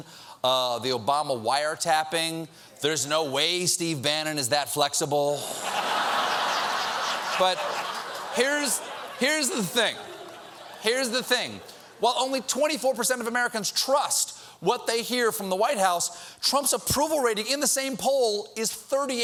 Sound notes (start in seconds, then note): 5.5 laughter